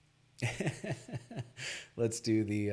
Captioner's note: laughs